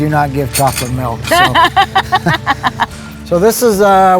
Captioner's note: laughing